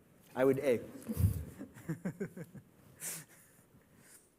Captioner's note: laughter